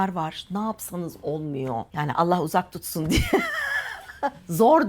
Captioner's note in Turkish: kahkaha